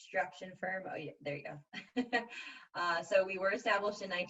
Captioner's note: laughs